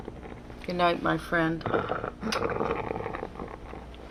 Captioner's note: kisses